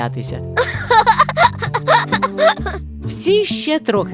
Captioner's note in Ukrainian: сміх